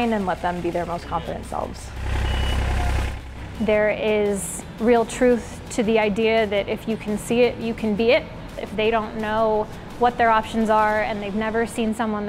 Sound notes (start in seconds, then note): 1.8 machine whirs